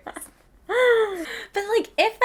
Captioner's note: both laughing